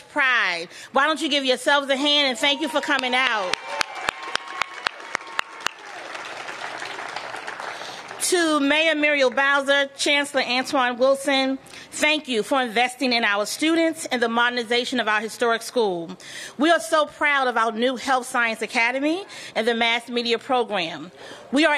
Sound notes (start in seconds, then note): 2.8 applause